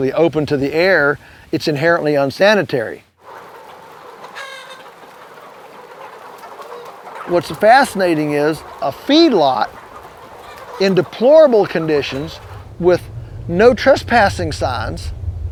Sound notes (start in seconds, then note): 3.8 chickens clucking